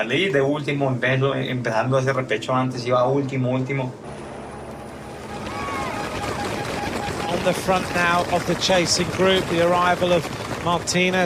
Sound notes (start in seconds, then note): 4.0 helicopter buzzing